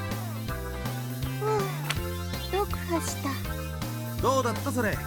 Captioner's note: sigh